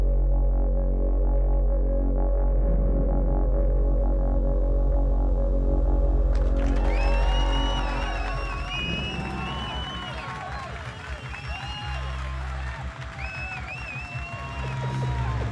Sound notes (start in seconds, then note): 7.0 crowd cheers; 12.2 ominous music